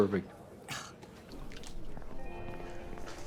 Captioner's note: scoffs